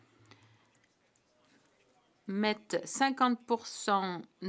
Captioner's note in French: voix de l'interprète